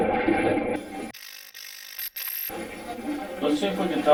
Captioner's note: static fizzing